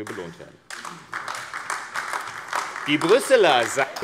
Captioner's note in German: Beifall AfD